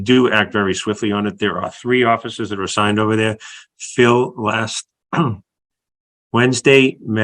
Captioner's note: cough